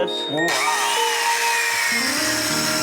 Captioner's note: buzzing; cheerful music